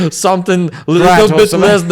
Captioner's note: laughs